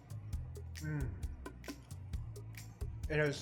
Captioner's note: light upbeat music; moans